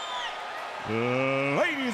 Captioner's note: crowd cheering